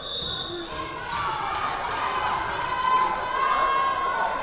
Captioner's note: whistle blowing; yelling